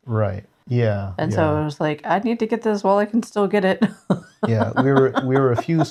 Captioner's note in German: Lacht